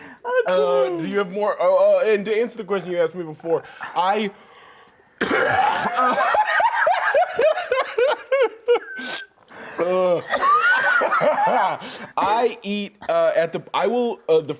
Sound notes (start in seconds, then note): 5.8 both laughing